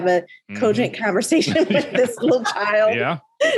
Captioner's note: all laughing